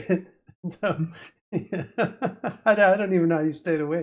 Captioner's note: laughter